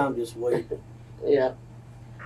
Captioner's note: laughter